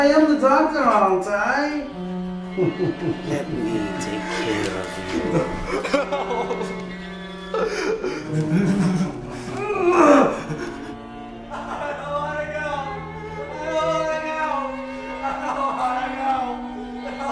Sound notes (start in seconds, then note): 2.6 laughs; 6.7 Painter whimpers